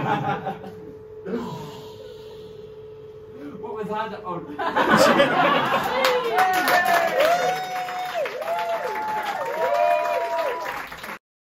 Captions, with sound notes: [dying breath] What was that? Oh. And scene! [cheers and applause]